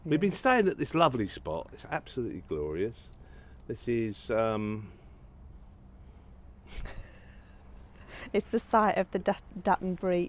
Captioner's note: laughter